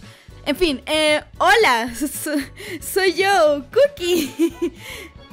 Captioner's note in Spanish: Risa nerviosa